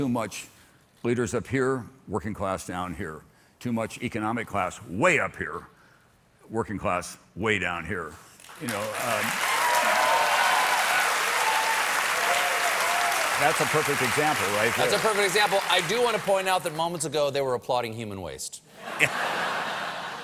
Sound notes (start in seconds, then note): 8.2 applause; 8.6 cheers